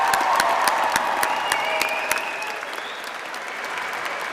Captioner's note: applause